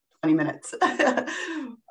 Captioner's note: laughing